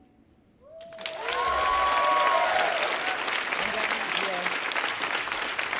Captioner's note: audience cheering and applauding